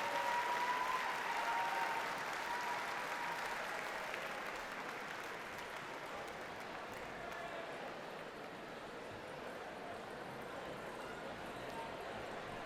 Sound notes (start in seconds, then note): 0.0 audience continues to cheer and applaud; 7.8 people chatter indistinctly